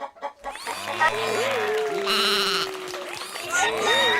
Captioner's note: applause